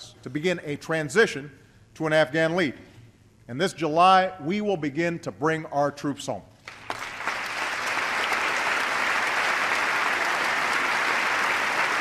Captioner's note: applause